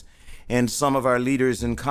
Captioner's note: none